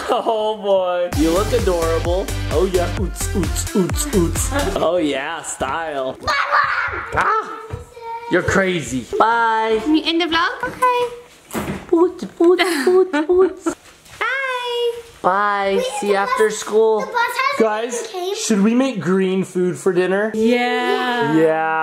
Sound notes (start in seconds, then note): 1.1 upbeat techno music; 6.5 shrieks